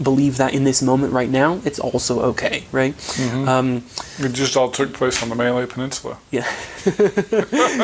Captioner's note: chuckling